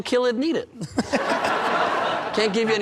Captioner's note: laughter